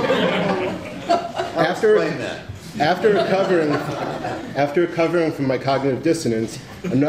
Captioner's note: laughter